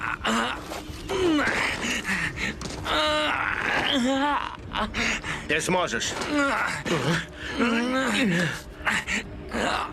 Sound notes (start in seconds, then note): 2.4 grunting